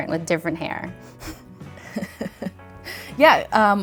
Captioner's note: both laugh